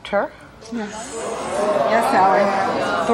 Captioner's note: audience boos